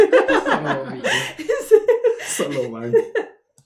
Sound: laughter

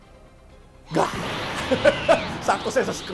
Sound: grunts

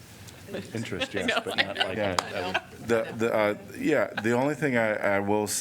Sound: laughter

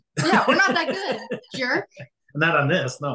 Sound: laughing

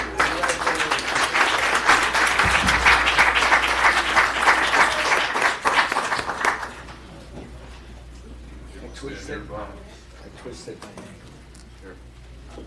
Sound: applause

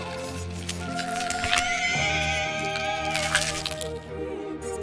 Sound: bones crunching and shrieker screams

